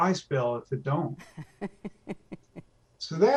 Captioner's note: laughs